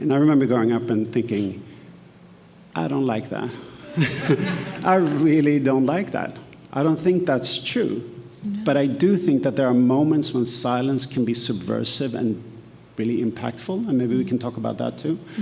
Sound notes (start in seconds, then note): 3.8 laughs; 3.8 attendees laughing